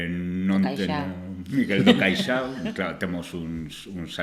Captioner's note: laughter